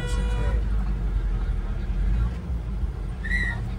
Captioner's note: in Swiss German; honks